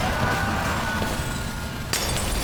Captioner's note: screams